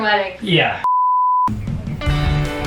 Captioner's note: TV beeps; upbeat music